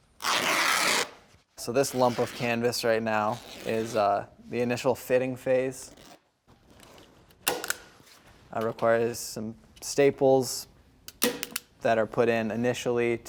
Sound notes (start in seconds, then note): 0.2 fabric ripping; 7.5 staple gun clicks